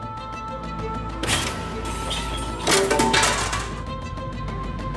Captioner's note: plate clanks